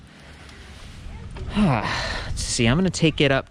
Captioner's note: breathing heavily